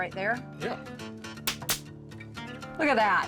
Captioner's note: stapling